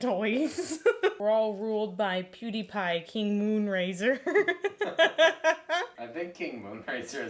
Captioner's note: laughs; laughs